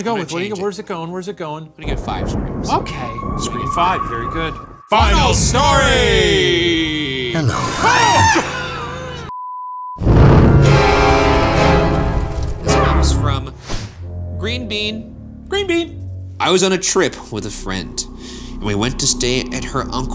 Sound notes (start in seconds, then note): 7.6 screaming; 9.7 intense music